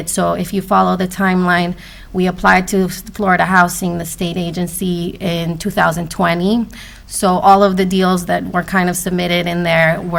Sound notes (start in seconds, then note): none